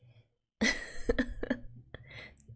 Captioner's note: laughs